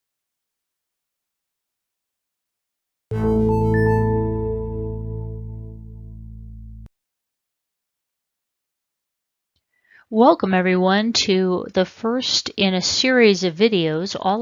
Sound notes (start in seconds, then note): 3.1 computer chime